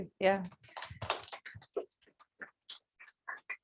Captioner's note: applause